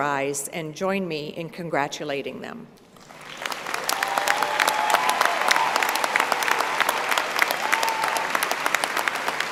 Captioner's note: applause